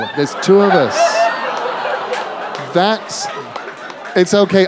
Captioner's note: laughter